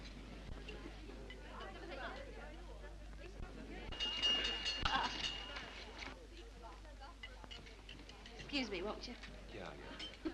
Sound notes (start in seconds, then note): 3.9 knife clangs